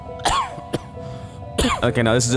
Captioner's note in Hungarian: köhögés